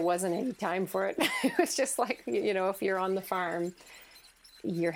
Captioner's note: laughing